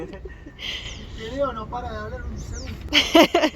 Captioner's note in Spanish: risas